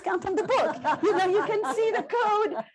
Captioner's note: laughter